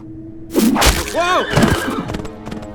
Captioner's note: B0NER cries out